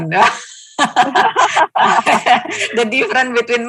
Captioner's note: laughing